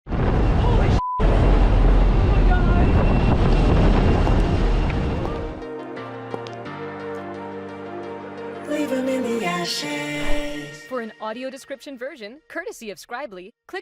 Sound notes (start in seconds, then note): 1.2 sound of wind whipping by the door; 4.2 sound of clicking heels